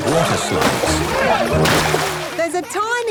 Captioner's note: laughing